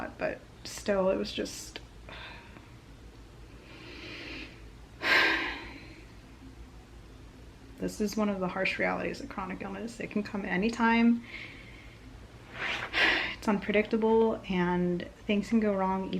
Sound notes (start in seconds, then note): 5.0 sighs